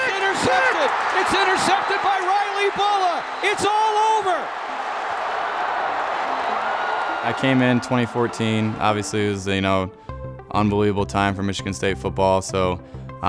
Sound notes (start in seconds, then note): 4.9 crowd cheers